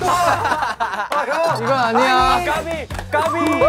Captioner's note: laughing